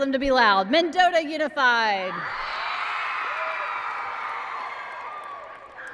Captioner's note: applause and cheering